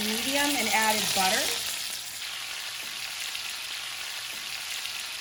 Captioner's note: pan sizzling